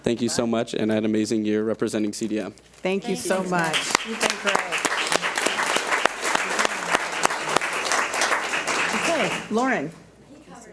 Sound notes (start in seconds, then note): 5.5 audience applauds